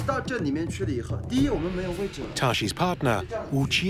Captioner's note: speaking Tibetan